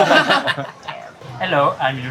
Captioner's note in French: Rires